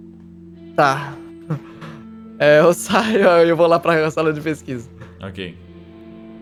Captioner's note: laughing